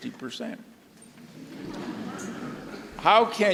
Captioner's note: audience laughs